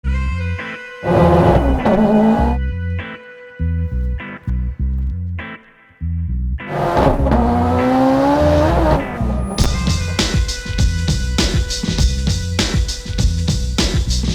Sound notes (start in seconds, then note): 0.2 relaxing music; 1.0 car roaring; 6.6 car roaring